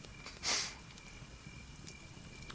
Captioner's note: whimper